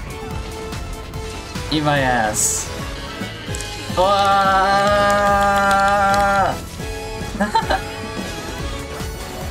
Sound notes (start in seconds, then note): 7.2 chuckles